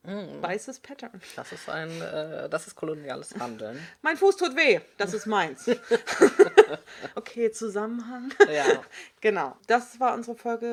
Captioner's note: both laugh; sarcasm